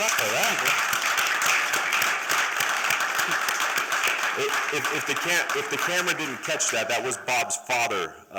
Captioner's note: applause